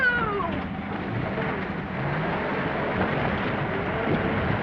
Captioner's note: engine rumbling